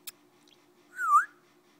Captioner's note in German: whistling